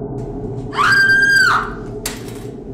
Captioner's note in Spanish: grito